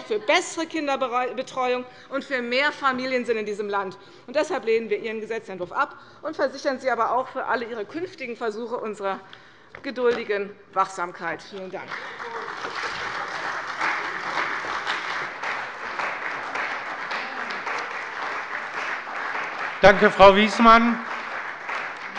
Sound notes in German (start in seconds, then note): 11.8 Beifall bei der CDU und bei Abgeordneten des BÜNDNISSES 90/DIE GRÜNEN